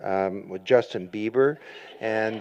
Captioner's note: laughter